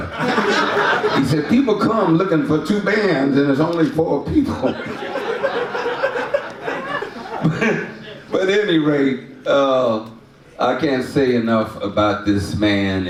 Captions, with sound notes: (audience laughs) He said, "People come looking for two bands "and there's only four people." (audience laughs) (laughs) But anyway, I can't say enough about this man